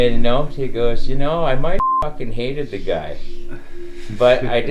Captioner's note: beeping